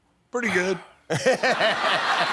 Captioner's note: laughter